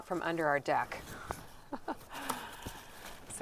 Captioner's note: laughs